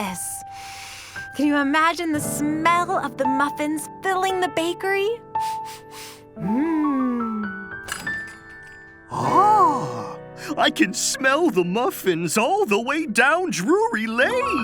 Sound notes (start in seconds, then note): 5.4 sniffs; 7.8 door bells jingle